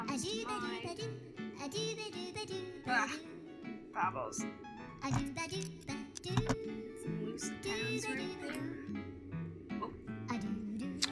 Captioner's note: clicks